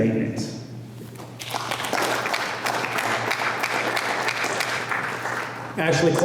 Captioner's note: applause